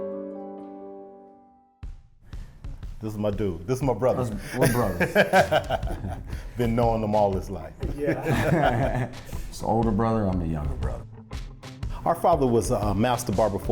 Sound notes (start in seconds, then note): 4.2 laughing; 7.5 people laughing